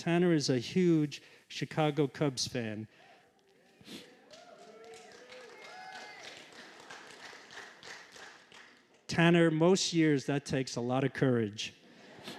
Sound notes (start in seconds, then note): 4.2 applause; 11.9 laughter